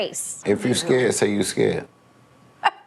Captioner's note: chuckling